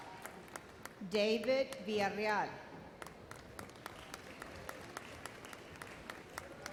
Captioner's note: audience applauds